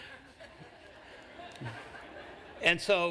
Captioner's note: laughter